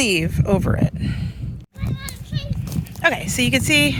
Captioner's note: wind billowing